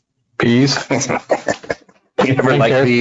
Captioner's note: laughs